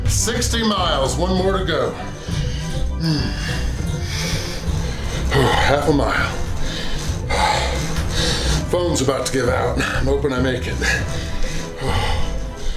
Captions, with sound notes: 60 miles, one more to go. (grunts) Half a mile (grunts). Phone's about to give out. Hoping I make it. (grunts).